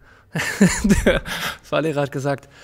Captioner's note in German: lacht